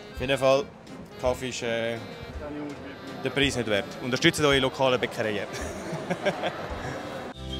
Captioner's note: laughs in Bünzli